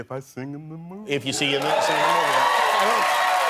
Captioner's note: applause